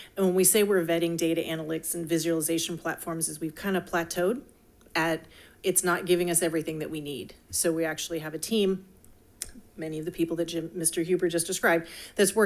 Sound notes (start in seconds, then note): none